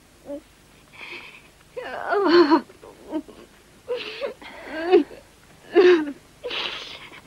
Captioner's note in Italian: la signora marchetti piange